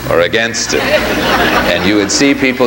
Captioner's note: audience laughs